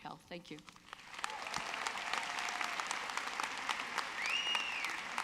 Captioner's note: audience clapping